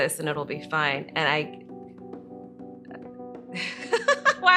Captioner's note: laughs